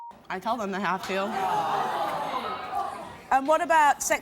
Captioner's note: gasping